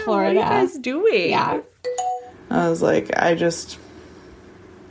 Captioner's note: bingbong